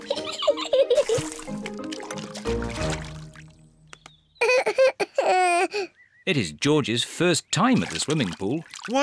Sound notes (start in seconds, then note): 0.0 giggles; 4.4 cries